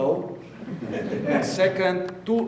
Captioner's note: audience laughing